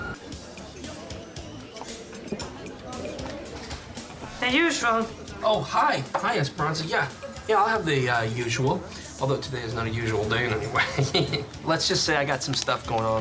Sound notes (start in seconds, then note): 10.4 laughs